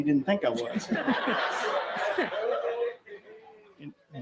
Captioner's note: laughter